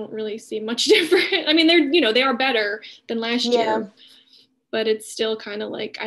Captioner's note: laughing